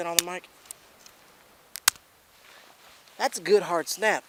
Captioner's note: wood snapping